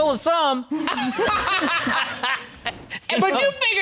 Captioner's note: all laughing